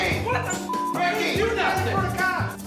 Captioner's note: beep